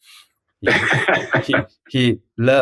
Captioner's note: laughs